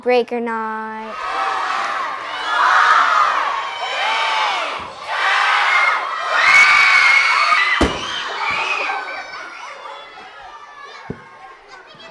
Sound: students yelling

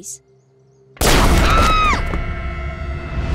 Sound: screaming

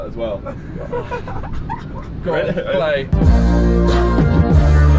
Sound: laughing

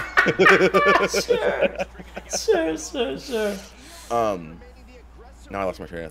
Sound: laugh

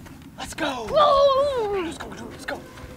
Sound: exclaims

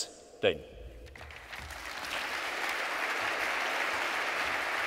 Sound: audience applauds

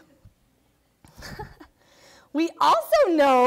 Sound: laughing

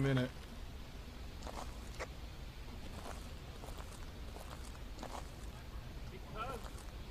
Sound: footsteps on gravel

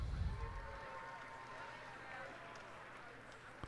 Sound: cheers and applause

